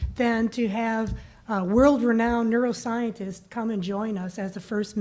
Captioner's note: none